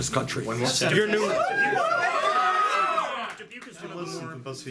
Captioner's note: cheering